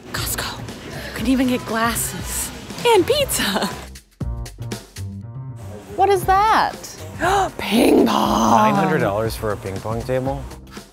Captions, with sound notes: - Costco! You can even get glasses, and pizza. What is that? (gasps) Ping pong! - $900 for a ping pong table?